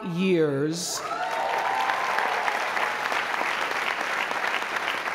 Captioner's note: applause